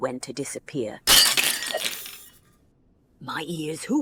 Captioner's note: plates shatter